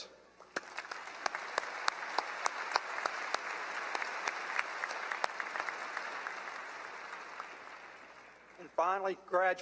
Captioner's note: applause